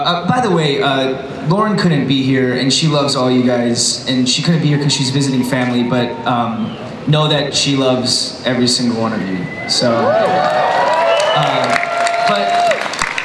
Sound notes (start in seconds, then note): 9.7 audience cheers and applauds